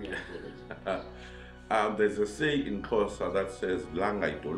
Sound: laughs

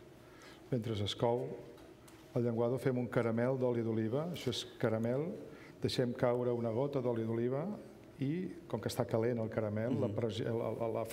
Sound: speaking catalan

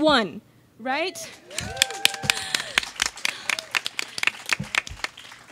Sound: audience cheers and claps

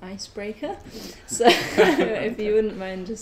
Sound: both laugh

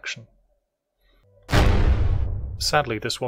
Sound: bang

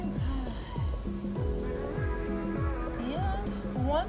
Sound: exhales

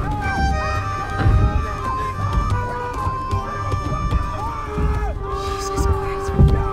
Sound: distant male screams

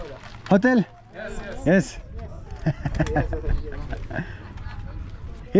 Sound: laughs

